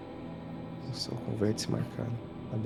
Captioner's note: whispering